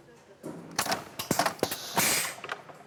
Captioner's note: clacking, then a hissing